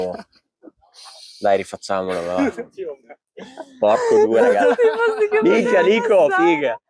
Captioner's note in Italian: risata e sbuffata